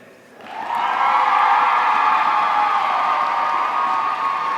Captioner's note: audience cheering